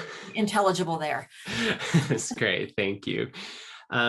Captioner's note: laughing